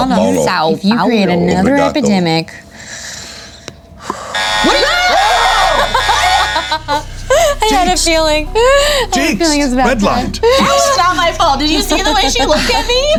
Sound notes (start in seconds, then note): 4.3 everyone screams